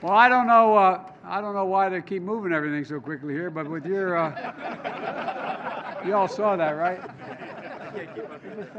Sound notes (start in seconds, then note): 3.6 laughter